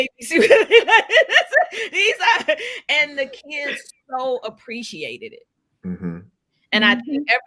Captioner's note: laughs